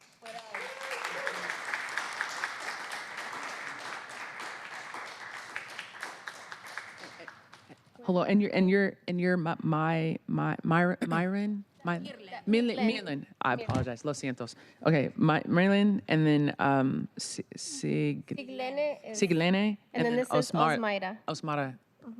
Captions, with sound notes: I.C.E. OUT. THANK YOU. >> I.C.E. OUT. [ APPLAUSE ] >> AND YOU'RE MYREN?